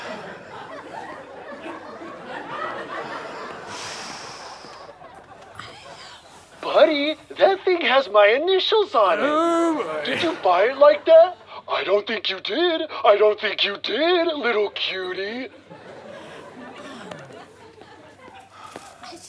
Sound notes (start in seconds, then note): 0.0 audience laughter; 11.8 in a baby voice; 18.7 angry sigh